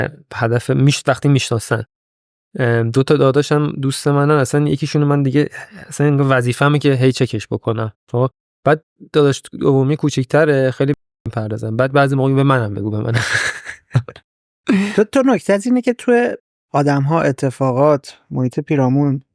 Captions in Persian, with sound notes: هدف... وقتی می‌شناسن. دو تا داداش هم دوست من‌اند. اصلاً یکی‌شون رو من دیگه اصلاً انگار وظیفه‌مه که هی چکش بکنم. بعد بعد داداش دومیه کوچیک‌تره خیلی به اون نمی‌پردازم. بعد بعضی موقع‌ها می‌گه به منم بگو، به منم بگو. (خنده) - تو نکته‌ت اینه که توی آدم‌ها، اتفاقات، محیط پیرامون